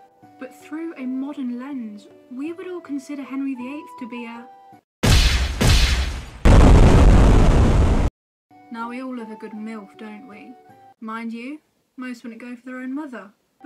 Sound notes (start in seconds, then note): 5.0 boom, boom, explosion